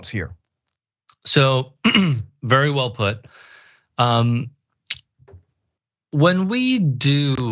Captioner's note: cough